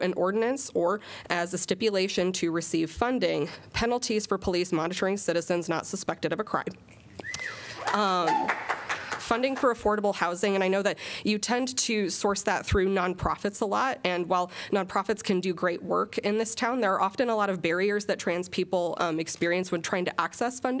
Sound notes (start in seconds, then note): 7.7 applause